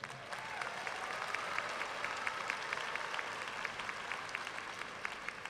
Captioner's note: audience cheering and applauding